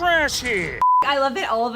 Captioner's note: beep